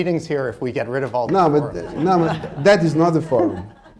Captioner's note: laughter